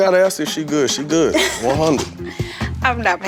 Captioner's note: laughing